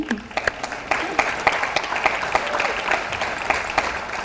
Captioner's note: audience applauds